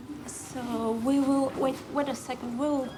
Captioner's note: none